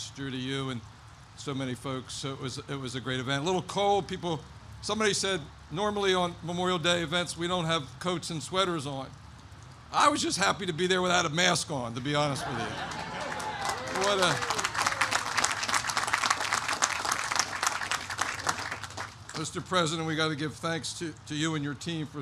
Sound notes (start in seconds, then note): 14.8 applause